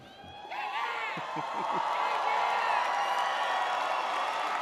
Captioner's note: audience cheers